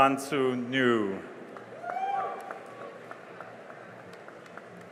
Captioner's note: cheering and applause